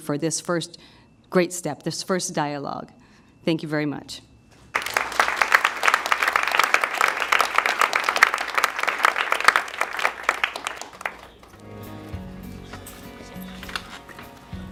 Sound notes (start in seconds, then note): 4.7 applause; 10.7 upbeat music